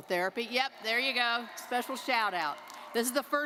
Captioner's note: crowd cheering